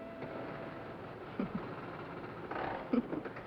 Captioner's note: chuckles